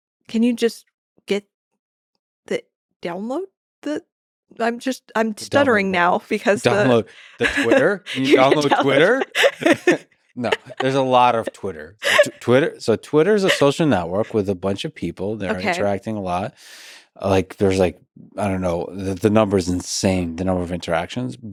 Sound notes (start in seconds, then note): 10.4 both laughing